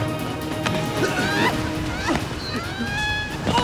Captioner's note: screams